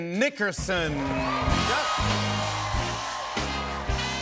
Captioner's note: cheers and applause